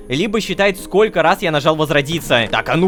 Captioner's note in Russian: none